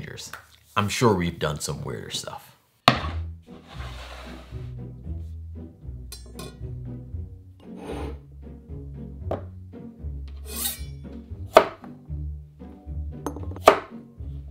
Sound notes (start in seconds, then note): 3.5 board sliding; 10.5 knife cutting